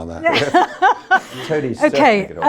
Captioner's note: laughing